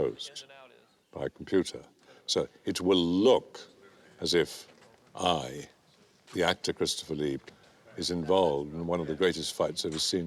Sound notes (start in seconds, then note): none